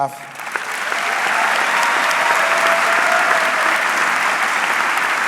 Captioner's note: audience clapping